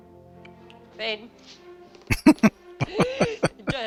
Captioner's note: laughing